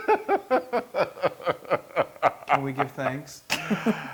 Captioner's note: laugh